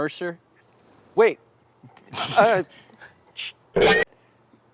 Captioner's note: stammers